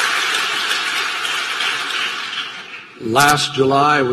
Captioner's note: laughter, applause